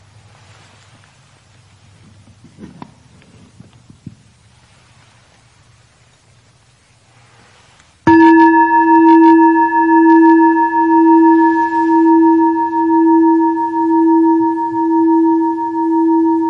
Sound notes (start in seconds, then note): 8.0 bell chiming